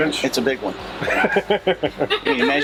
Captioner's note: laughter